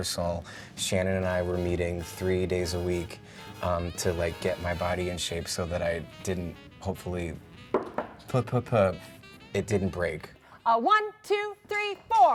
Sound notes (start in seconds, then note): 7.7 knocking on wood; 12.1 upbeat music